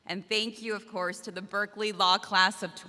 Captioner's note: none